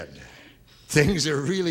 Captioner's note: laughing